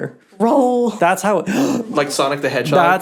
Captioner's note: gasps